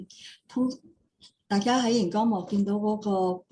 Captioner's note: non-english speech